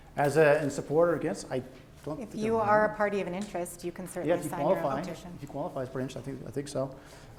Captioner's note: French